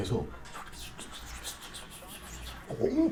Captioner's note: bizarre whispering sound